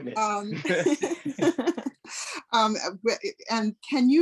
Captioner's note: laughs